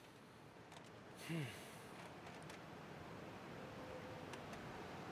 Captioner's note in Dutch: Drew ademt zwaar uit